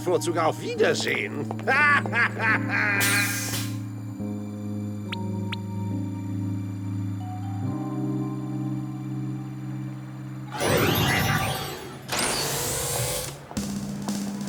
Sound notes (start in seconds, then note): 3.3 laughing